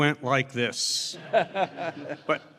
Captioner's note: laughter